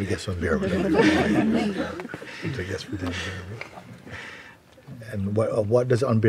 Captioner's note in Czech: smích